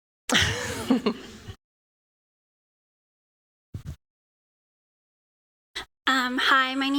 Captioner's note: audio out